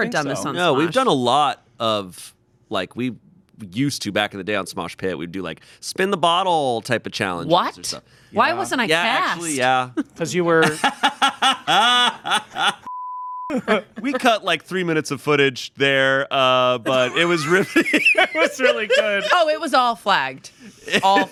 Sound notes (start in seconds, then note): 10.6 laughing; 12.9 beep; 20.7 chuckling